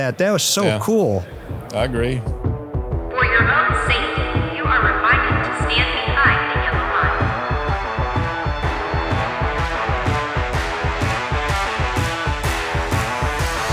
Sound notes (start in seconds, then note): 2.6 upbeat rock music; 7.1 alarm blaring; 9.4 upbeat rock music